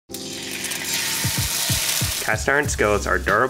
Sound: sizzling

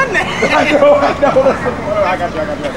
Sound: laughs

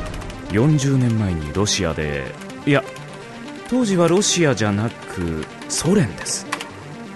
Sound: typing noises

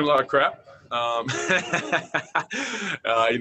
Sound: laughter

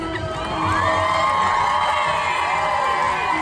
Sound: cheering

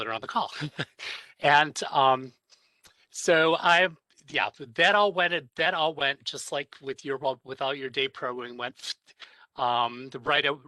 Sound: laughter

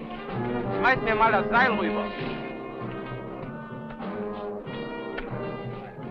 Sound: speaking in a foreign language

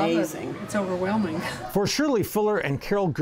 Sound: laughs

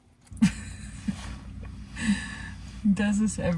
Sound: laughing

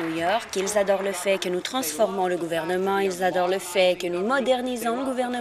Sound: applause

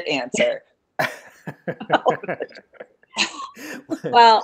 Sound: laughing

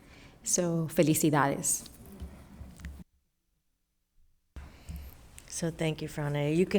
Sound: speaking foreign language

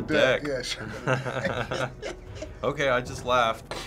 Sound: laughter

